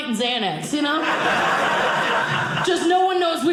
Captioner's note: audience laughing